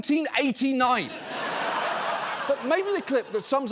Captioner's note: audience laughing